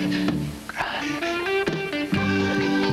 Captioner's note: he whispers